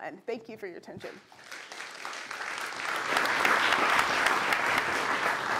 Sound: applause

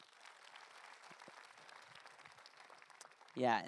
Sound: audience applause

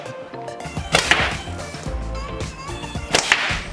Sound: thwack; thwack

